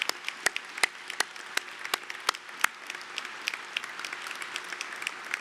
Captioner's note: applause